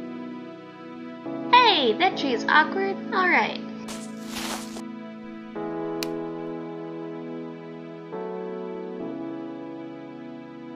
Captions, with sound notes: Hey! That tree is awkward, alright. *footsteps*